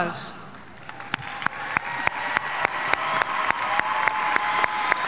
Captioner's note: audience cheering